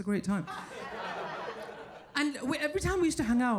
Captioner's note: people laughing